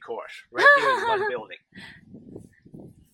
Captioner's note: laughing